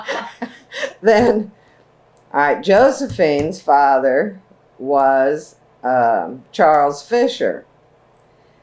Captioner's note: laughter